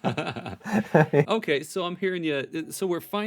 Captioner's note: laughing